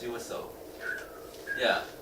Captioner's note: whistling